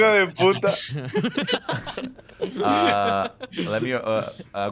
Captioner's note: laughter